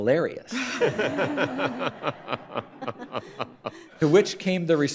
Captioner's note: crowd laughs